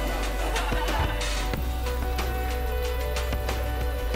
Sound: laughing; upbeat music

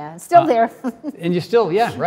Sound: Cynthia chuckles

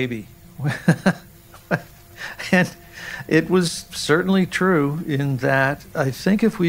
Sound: chuckling

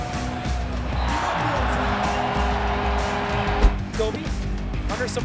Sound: crowd cheering

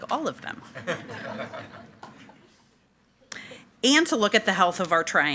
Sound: board members and attendees chuckle

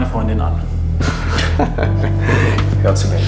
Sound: both laugh

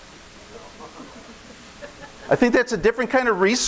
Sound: audience laughing

